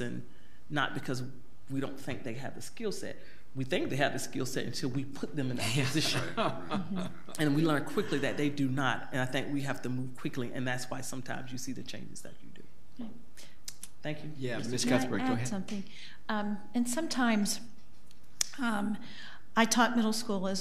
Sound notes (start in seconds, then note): 5.6 board laughs